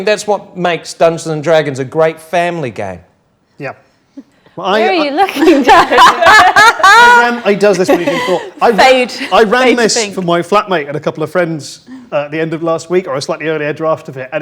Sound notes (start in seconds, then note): 5.1 group laughs; 7.7 overlapping chattering